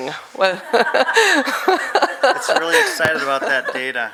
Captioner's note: laughing